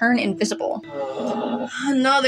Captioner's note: Bingo Groans